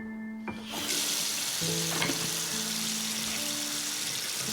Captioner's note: gentle music continues; water gushing